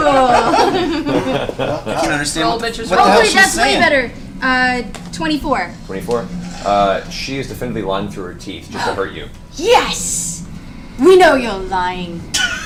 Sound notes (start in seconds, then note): 9.1 gasps; 12.3 all laugh